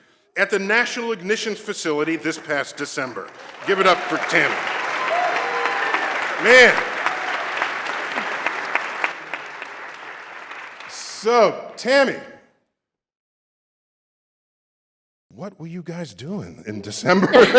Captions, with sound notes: at the National Ignition Facility this past December. Give it up for Tammy. [APPLAUSE] Oh, man. [APPLAUSE] So, Tammy, what were you guys doing in December?